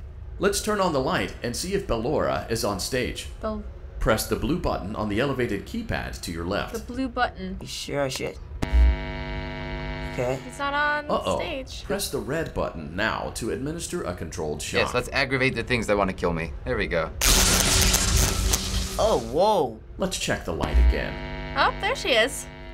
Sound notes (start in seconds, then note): 8.6 buzzing; 17.2 electrical crackling